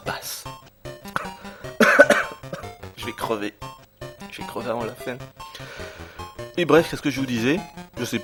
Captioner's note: coughs